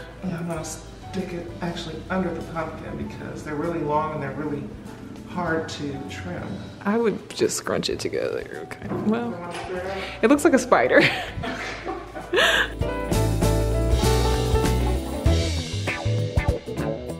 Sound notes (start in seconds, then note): 11.0 laughing; 12.2 fun upbeat music